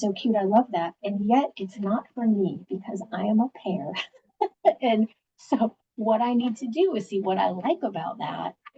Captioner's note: laughs